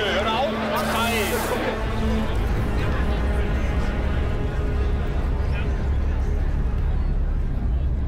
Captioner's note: overlapping shouting